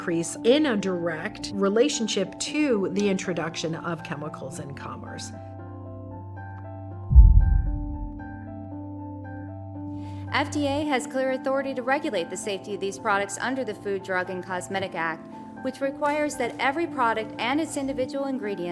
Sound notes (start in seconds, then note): 7.1 quiet impact